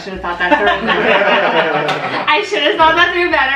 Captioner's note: laughter